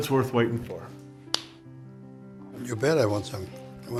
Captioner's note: slap